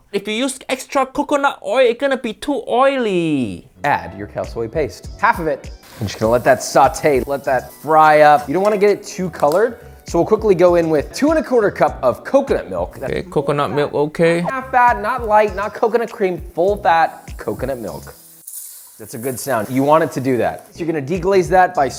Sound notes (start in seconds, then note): 18.0 sauce hissing